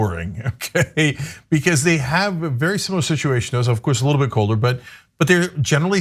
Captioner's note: laugh